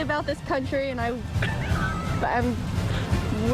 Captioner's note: coughing; laughter